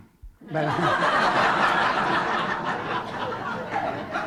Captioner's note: laughter